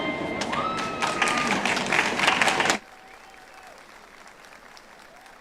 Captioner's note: audience applauds